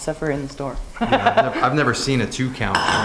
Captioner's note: laughs